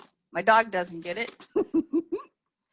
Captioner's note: laughs